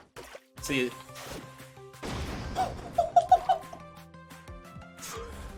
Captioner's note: laughing